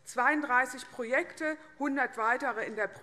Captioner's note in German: none